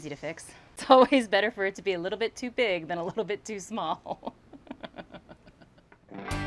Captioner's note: laughing